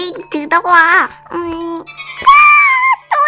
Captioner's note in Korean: 탈탈탈